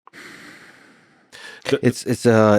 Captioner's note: Lex exhales